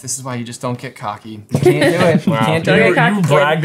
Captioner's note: chuckling